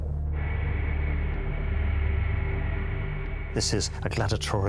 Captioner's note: aeroplane whirring